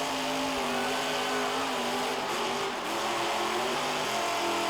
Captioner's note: engine revs